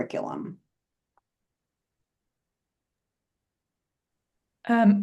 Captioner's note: silence